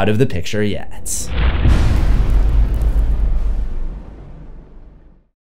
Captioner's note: impact